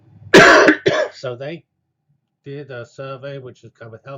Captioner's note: cough